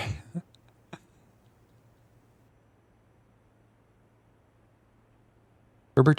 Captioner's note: laughs